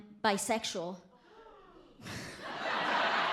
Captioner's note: audience member gasps loudly